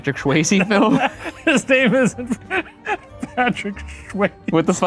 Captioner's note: laughs